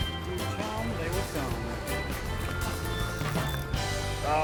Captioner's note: reel winding